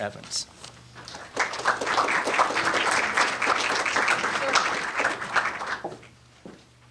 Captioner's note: applause